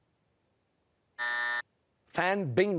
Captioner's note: buzzer